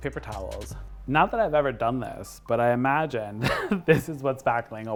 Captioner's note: laughs